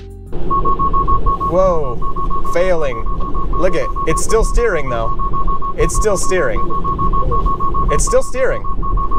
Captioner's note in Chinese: 警笛聲